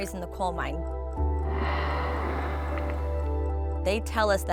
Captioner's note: water spraying